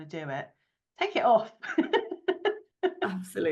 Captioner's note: chuckles